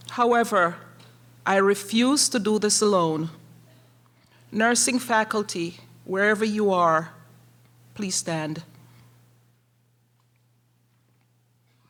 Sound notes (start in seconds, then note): none